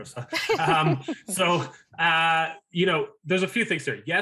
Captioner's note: laughing